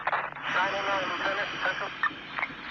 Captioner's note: exhale